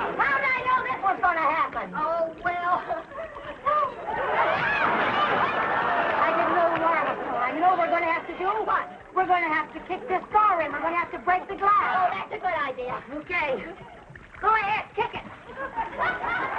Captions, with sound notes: - How would I know this was gonna happen?! - Oh, well... (audience laughing) I didn't know the water was so high. You know what we're gonna have to do? - What? - We're gonna have to kick this door in. We're gonna have to break the glass. - Oh, that's a good idea. - Okay. Go ahead, kick it!